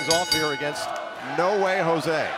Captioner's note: bell ringing